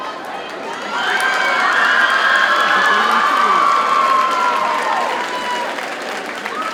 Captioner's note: audience cheers and applauds